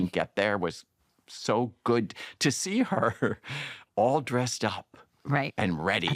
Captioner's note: chuckles